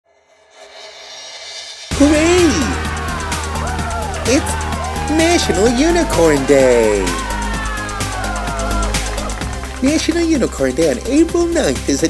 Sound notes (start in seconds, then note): 0.2 bouncy music; 2.0 voiceover; 6.5 crowd cheering; 8.1 bouncy music; 9.2 crowd clapping